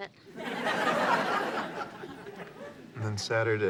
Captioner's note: audience laughs